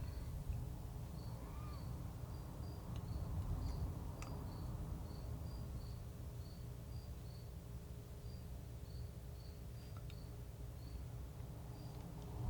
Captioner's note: crickets chirping